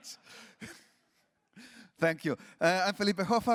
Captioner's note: laughs